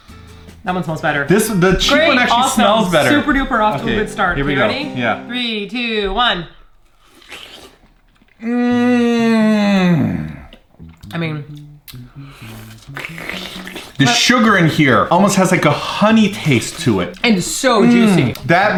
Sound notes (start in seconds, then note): 6.9 slurping and eating noises; 12.2 loud slurping